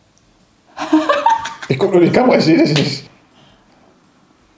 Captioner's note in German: lacht